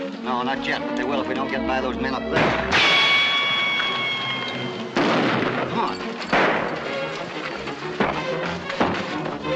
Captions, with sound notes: Not yet, but they will if we don't get by those men up there. [ GUNSHOT RICOCHET ] [ GUNSHOT ] Come on!